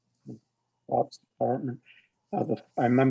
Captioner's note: speaks faintly